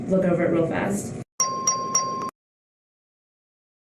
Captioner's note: ding, ding, ding